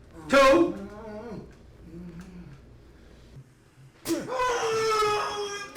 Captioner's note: Dante grunting; Dante moaning